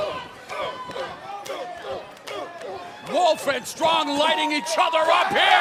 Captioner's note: crowd cheering